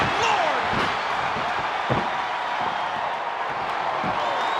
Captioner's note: crowd cheering